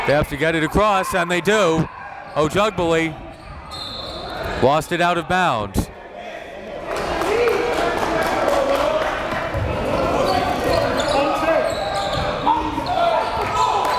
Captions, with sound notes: They have to get it across and they do. Ojugbele. (whistle blows) Lost it out of bounds. (applauding)